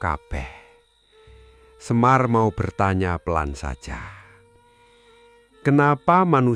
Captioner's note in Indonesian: menghela napas